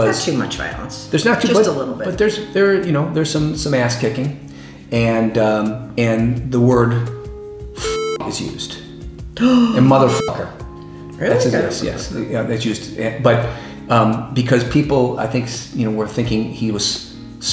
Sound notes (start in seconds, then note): 9.7 beep